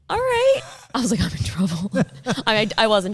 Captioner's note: laughing